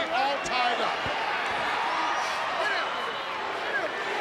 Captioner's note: crowd yelling